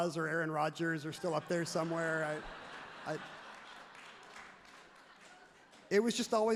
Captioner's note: everyone laughs happily